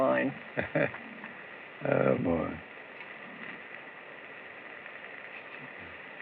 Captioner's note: chuckles